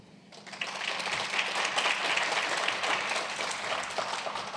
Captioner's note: applause